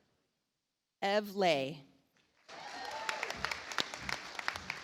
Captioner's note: audience applauds